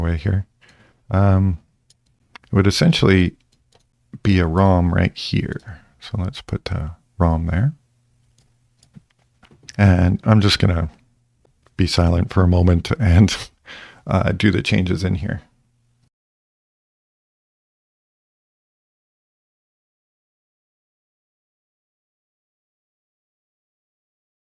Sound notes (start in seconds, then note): 16.3 silence